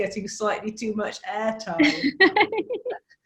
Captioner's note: laughs